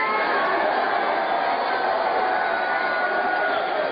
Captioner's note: cheers and applause